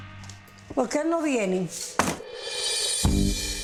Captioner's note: mother speaking foreign language; dramatic upbeat music